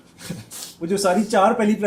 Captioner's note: नाक से की जाने वाली आवाज़